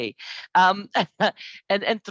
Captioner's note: laughs